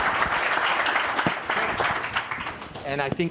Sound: applause

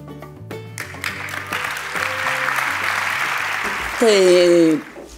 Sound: applause

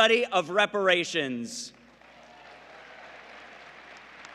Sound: applause

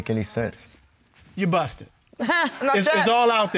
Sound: laughs

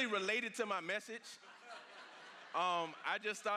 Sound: congregation laughs

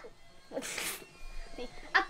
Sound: laugh

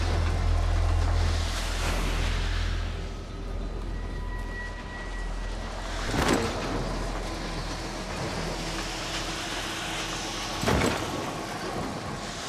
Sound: thunder rumbling

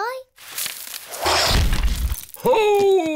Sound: thuds

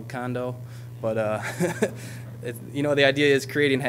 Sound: audience laughing

